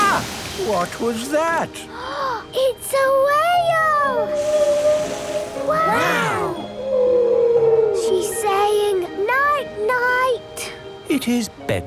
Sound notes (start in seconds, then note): 2.5 gasps; 4.1 whale calling